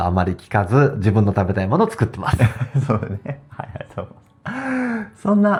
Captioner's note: laughs